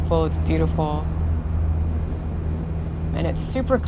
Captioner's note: rumble of engine